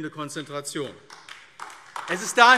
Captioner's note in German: Beifall AfD